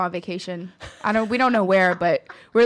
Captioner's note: laughing